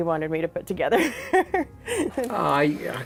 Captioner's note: laughs